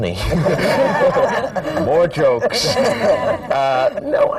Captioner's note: laughter